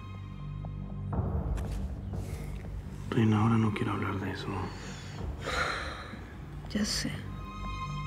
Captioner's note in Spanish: suspiros